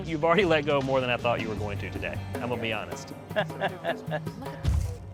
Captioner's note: laugh